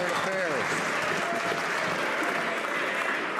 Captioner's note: some Applause